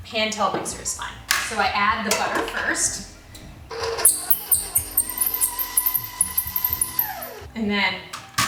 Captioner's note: blending